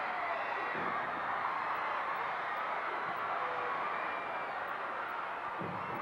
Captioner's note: audience cheering continues